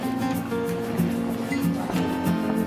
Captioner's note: people Chattering